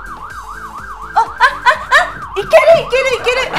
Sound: whimpering; speaking in foreign language

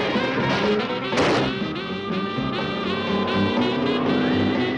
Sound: hissing

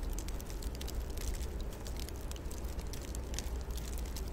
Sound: water pattering

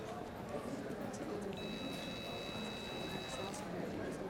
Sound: pager beeping

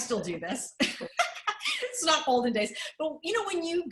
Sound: laughter

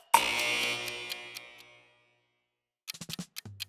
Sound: clock ticks; alarm buzzes; clock ticks

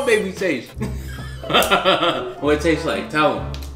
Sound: laughs

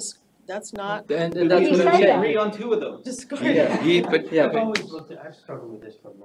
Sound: audience chattering, indistinct

